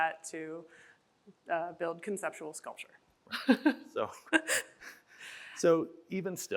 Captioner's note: chuckles